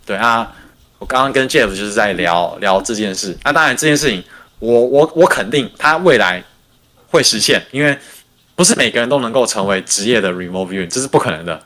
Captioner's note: non-english speech